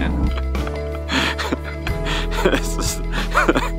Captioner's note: laughs